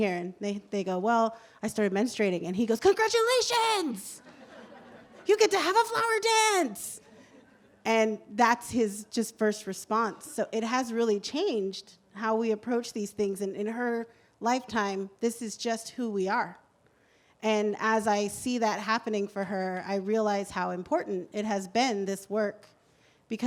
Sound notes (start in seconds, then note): 4.2 laughter